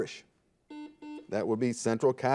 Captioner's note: buzzer beeping